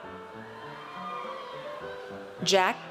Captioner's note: audience cheers